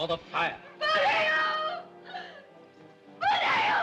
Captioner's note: Messua screams